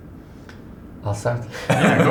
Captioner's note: laughing